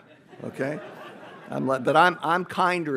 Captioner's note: audience laughs